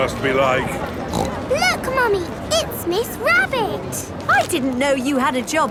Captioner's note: snorts